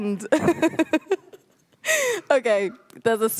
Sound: laughs

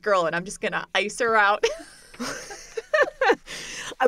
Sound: laughter

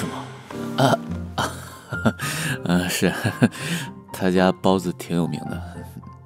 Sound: laughs

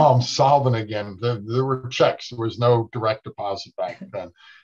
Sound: laughing

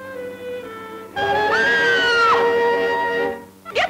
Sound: mother shrieks

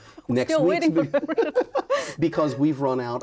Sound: laughs

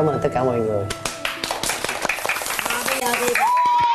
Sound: clapping sound

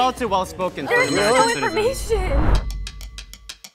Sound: bell rings; steady music

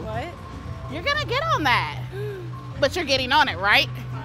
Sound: gasps

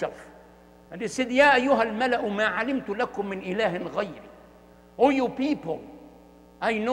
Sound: Arabic

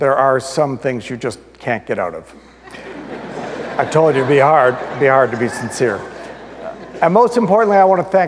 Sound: audience laughter

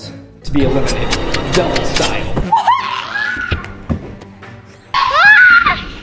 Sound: screaming

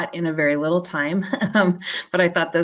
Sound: laughs

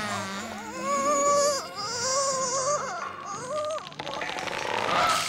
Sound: groaning

